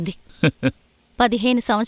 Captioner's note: chuckles